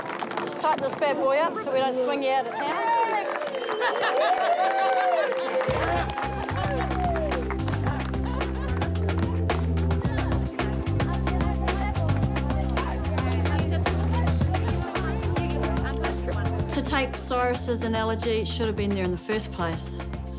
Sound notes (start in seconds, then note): 4.1 cheering, applause; 6.6 upbeat music